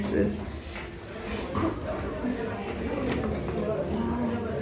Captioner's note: background chatter